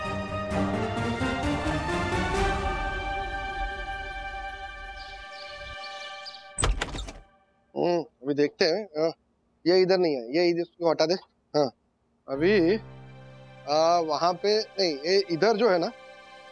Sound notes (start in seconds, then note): 0.0 tense music; 6.4 door opening